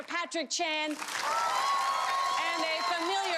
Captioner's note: applause